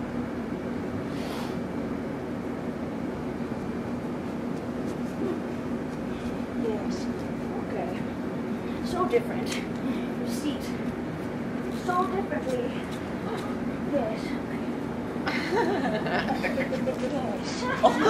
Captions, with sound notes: Hmm... Hm! Yes... Okay! So different! You seat so differently! Yes! Okay. (laughter) Yes!